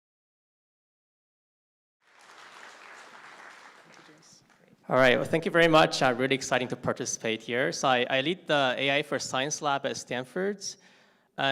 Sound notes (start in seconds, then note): 2.0 applause